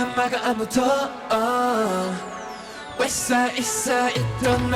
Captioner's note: none